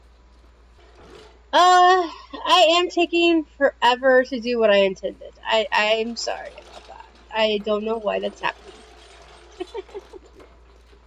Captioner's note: laughter